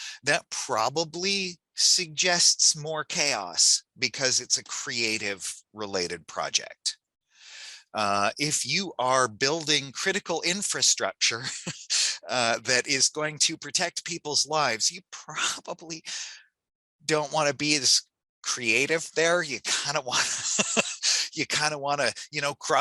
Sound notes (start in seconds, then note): 11.3 chuckles; 20.1 laughs